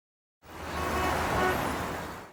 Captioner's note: cars honking